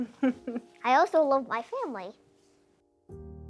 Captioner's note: woman chuckling